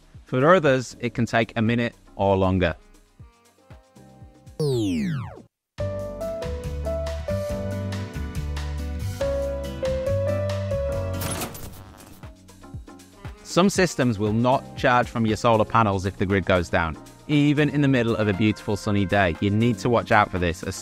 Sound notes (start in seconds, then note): 4.6 electronic whooshing; 4.8 gentle music